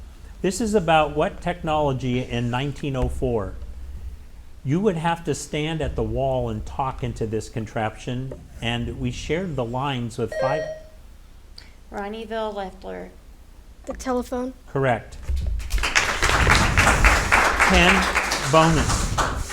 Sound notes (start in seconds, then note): 10.3 buzzer ringing; 15.6 audience applauding